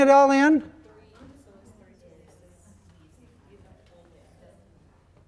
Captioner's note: people chattering